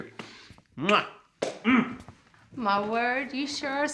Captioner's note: hand smacks